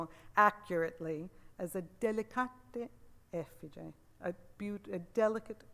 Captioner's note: speaks Italian